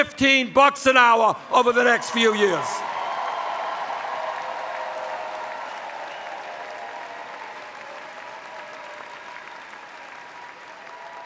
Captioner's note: cheers